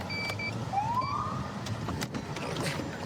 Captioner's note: siren chirps